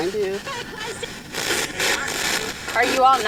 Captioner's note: spirit box voice